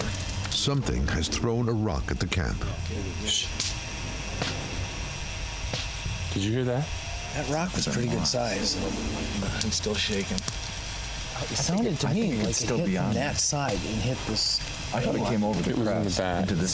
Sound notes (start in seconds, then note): 4.3 rocks hitting